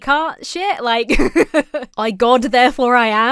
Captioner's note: laughs